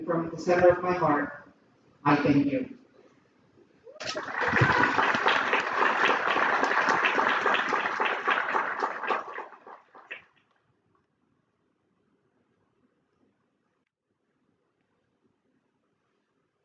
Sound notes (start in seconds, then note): 5.8 applause